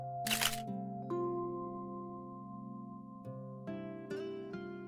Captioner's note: click